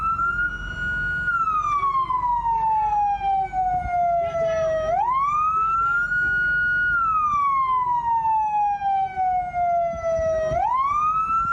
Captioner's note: sirens